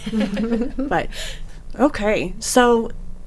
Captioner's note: people laughing